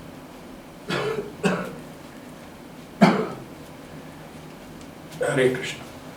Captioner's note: A slight coughing is heard from inside the room